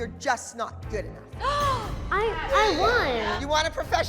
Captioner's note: gasps